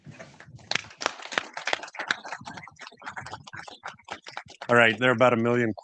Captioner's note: audience applauds